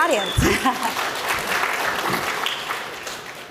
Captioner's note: applause